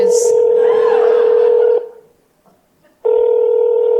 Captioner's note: phone rings backstage